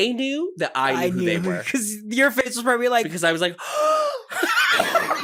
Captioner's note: gasps